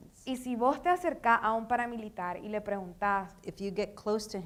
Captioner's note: speaking in foreign language